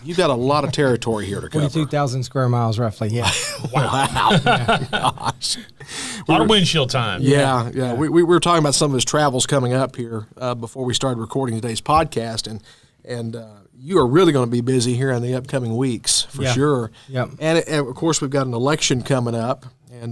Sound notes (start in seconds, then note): 3.2 laughter